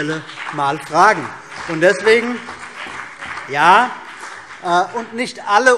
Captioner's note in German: Beifall BÜNDNIS 90/DIE GRÜNEN und vereinzelt CDU